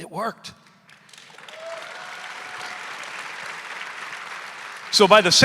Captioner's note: audience applauding; audience cheering